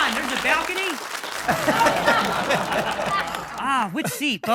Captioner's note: audience laughing